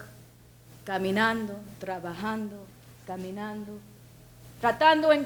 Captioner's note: speaks in foreign language